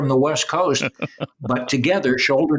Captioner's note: laughter